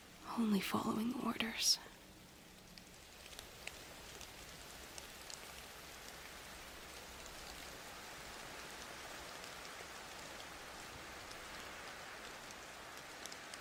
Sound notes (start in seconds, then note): 2.7 rain